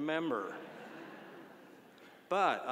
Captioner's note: audience laughing